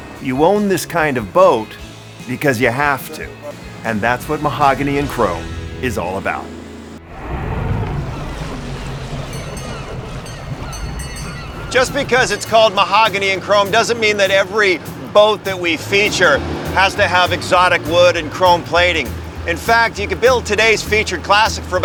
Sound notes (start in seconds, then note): 7.2 boat engine whirring; 8.1 water splashing; 9.4 boat bell dinging; 9.4 seagulls crying